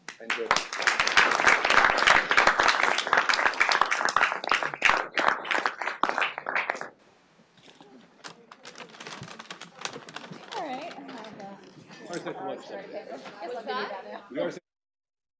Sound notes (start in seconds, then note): 0.0 applause; 10.6 chatter